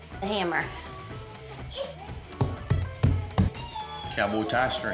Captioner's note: hammering